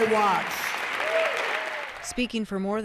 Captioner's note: cheering and applause